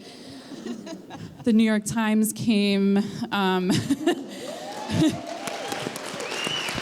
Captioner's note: applause